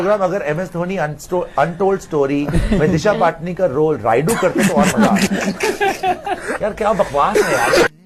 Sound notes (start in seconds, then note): 4.2 laughing